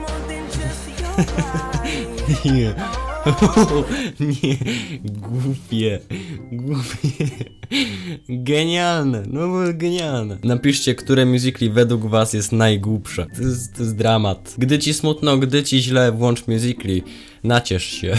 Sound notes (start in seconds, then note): 1.0 laugh; 3.2 laughter